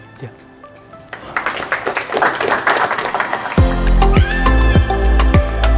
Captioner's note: chill electronic music; audience applauding